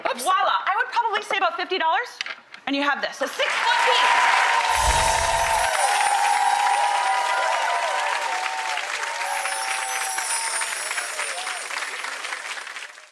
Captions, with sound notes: Voila! I would probably say about $50 and you have this. (applause)